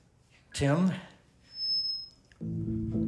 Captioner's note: microphone feedback; upbeat music playing